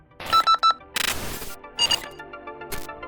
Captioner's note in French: tiuuu